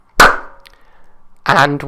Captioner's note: clap